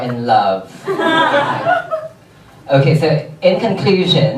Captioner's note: audience members laugh